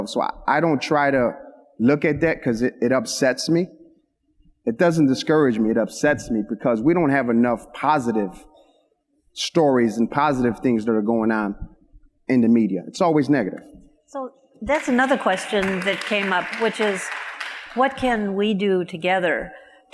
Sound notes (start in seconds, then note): 14.6 audience applauds